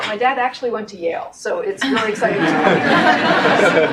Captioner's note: audience laughs